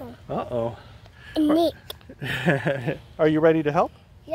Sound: laughs

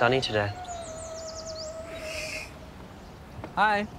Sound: hissing

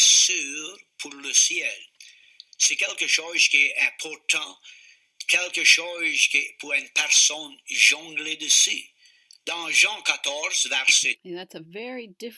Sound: language recording

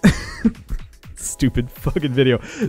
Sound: laughs

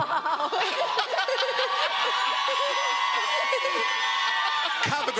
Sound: audience cheering

